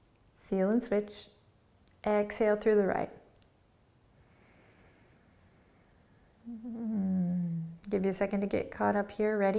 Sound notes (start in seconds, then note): 3.6 exhaling